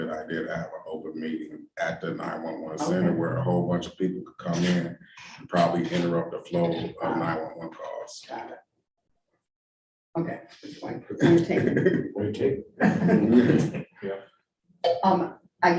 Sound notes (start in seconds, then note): 11.1 laughing; 12.8 all laughing